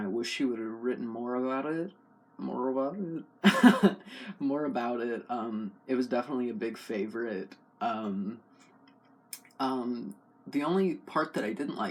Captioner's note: laugh